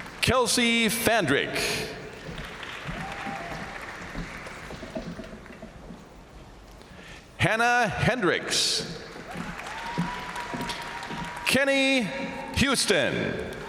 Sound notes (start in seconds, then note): 0.0 crowd applauding; 2.2 crowd applauding; 2.3 crowd cheering; 9.0 crowd applauding; 9.2 crowd cheering; 13.4 crowd applauding